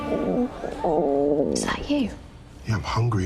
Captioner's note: man's stomach growling